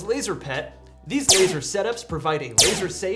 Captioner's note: laser fires